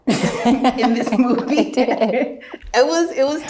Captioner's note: both laughs